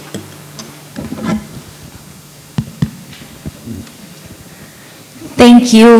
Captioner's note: microphone sounds